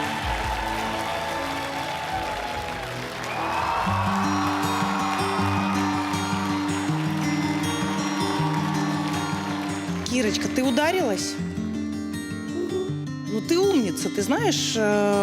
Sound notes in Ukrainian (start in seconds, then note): 0.0 оплески; 6.9 оплески